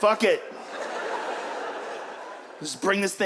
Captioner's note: audience laughs